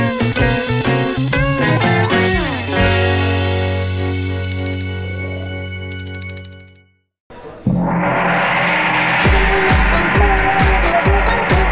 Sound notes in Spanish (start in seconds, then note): 0.0 Música alegre; 7.4 Sonido de gong; 9.1 Música oriental